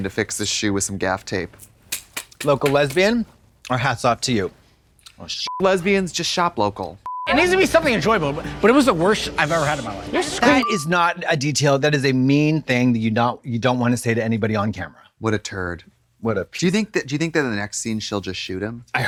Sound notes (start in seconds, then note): 2.0 Katya claps; 5.5 beep